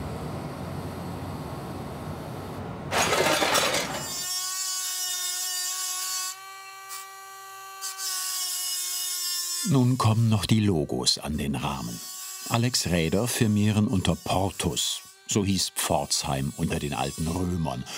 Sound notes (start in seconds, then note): 2.9 clinking; 2.9 shrill whirring